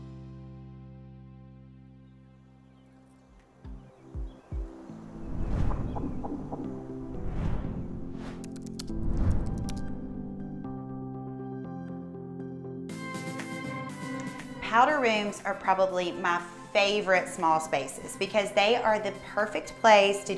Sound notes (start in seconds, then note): 3.2 lively music; 3.6 birds tweeting; 5.1 screen whooshing; 8.7 lively music; 9.4 text typing